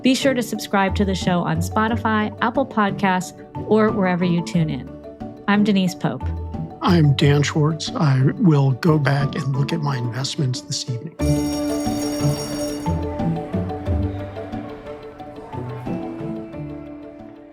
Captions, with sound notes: Be sure to subscribe to the show on Spotify, Apple Podcasts, or wherever you tune in. I'm Denise Pope. - I'm Dan Schwartz. I will go back and look at my investments this evening. (school bell ringing) (bright music)